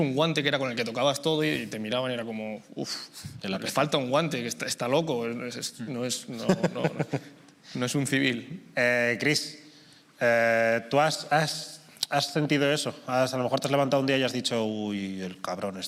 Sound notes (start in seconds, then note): 6.4 laughs